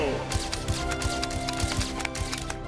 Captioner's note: camera shutters click